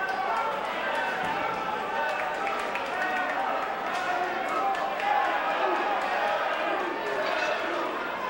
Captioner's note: crowd cheering